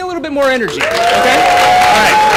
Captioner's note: cheering